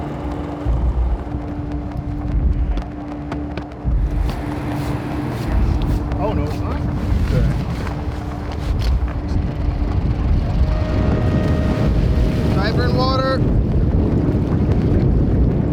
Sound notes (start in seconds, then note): 0.1 suspenseful music; 9.6 boat motor running and water splashing